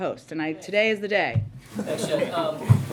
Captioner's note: laughter